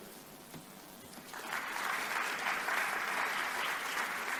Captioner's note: applause